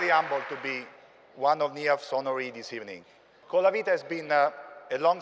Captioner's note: cheers and applause